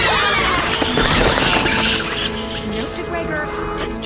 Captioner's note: screams; fire